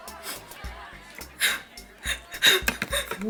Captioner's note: sniffles; sobbing